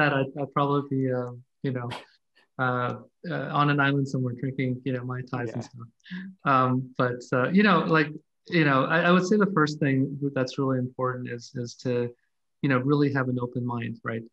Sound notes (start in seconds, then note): 5.2 faintly speaking